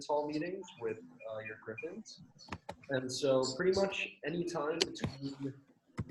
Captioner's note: murmurs